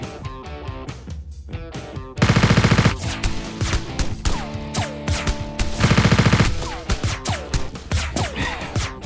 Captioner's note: machine gun fire